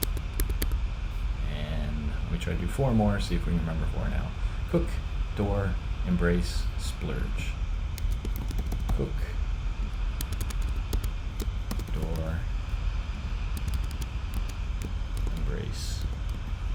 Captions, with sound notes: And, we'll try to do four more, see if we can remember four now. Cook, door, embrace, splurge. Cook. (keyboard clacking) Door. Embrace.